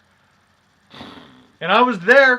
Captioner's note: blows Raspberry